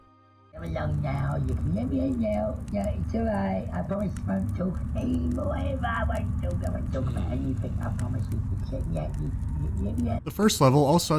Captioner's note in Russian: из гроба доносится приглушённый голос